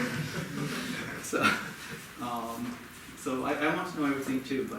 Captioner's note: audience laughing